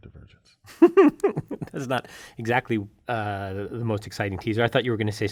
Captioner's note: laugh